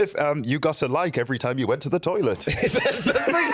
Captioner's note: laughs